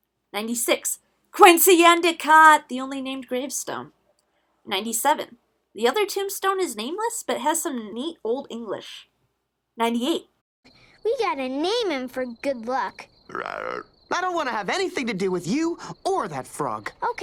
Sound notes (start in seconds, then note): 12.8 frog noise